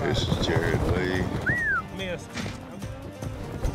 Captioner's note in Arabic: صافرات